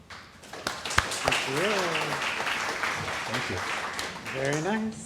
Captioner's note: applause